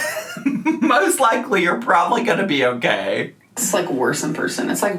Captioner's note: laughs